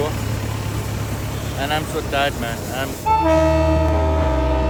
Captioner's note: train whistles